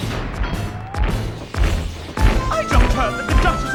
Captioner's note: stomping